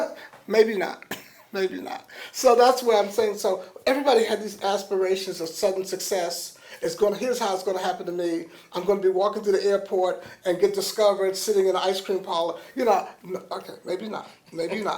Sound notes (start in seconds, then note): 1.1 laughter